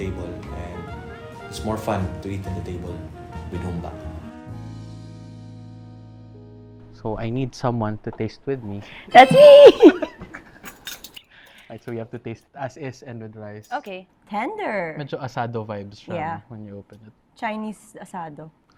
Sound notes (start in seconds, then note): 9.0 chuckles